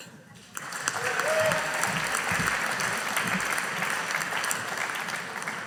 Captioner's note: audience applauding